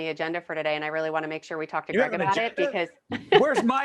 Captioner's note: laughing